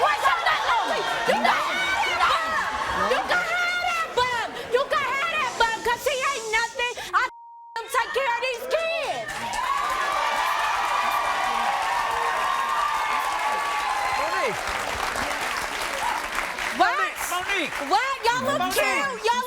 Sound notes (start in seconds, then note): 9.6 audience cheers